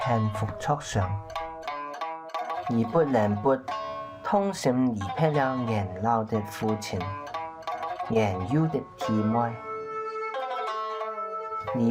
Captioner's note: speaking other language